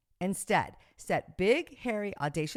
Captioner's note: none